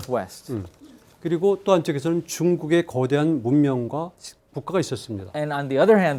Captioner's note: speaking in Korean